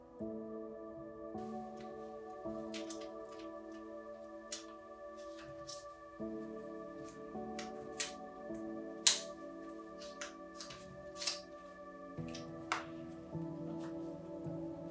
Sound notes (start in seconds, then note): 1.3 soft crafty noises